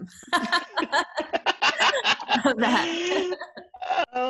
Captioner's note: laughs